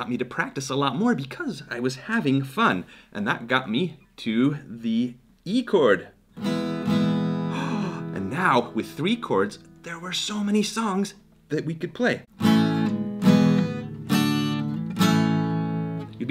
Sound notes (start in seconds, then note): 6.3 acoustic guitar strumming; 7.4 gasping; 12.3 acoustic guitar strumming